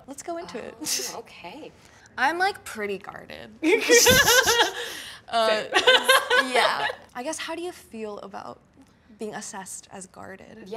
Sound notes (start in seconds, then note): 4.0 both laughs cutely; 6.1 laughs loudly